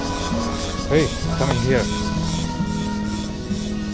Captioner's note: helicopter